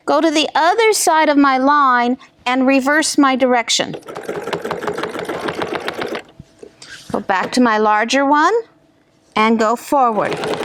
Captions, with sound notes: go to the other side of my line, and reverse my direction. (machine whirring) Go back to my larger one. And go forward.